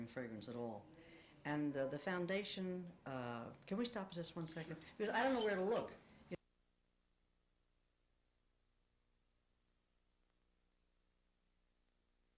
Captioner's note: audio stops